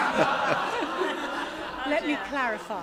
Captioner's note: laughter